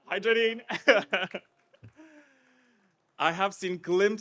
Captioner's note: chuckles